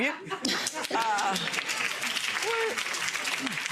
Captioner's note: audience applauds